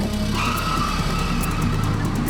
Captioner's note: tires squealing